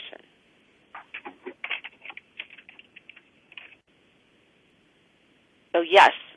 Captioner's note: pause